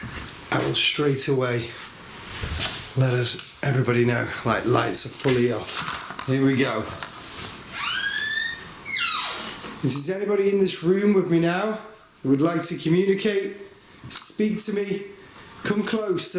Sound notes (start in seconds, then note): 7.7 door creaks